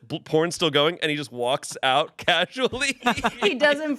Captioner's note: laughs